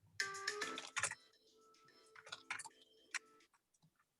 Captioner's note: phone rings